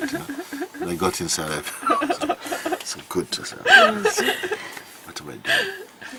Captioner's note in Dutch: gelach